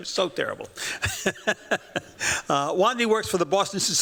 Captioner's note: chuckles